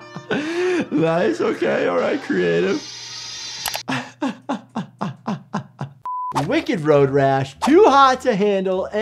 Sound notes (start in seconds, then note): 3.9 laughing